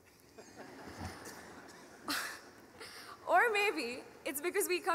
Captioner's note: laughing